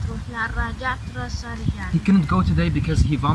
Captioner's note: speaking Arabic